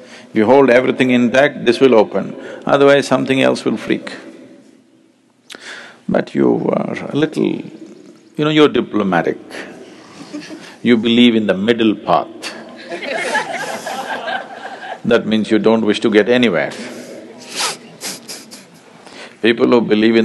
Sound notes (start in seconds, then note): 12.8 laughter; 18.5 laughs